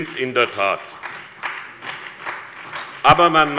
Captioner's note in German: Beifall bei der SPD